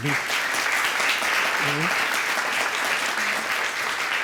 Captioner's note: audience applauding